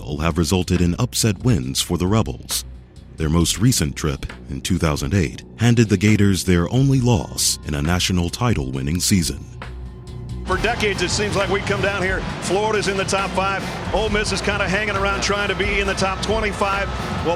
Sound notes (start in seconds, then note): 0.0 voiceover; 10.6 voiceover